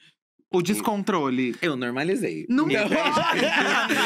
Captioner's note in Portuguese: risos